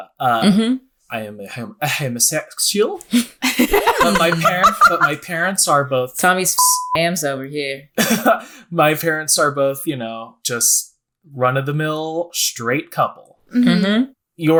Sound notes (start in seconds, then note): 3.4 laughing; 6.6 beep